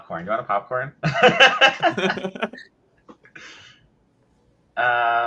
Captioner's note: people laughing